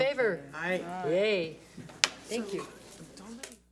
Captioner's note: gavel bangs